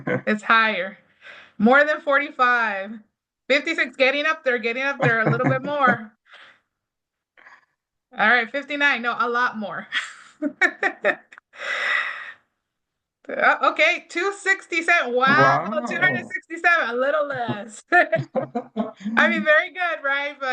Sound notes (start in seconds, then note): 0.0 laughing; 10.4 laughs; 17.2 laughs; 17.9 laughing